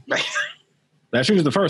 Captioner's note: laughing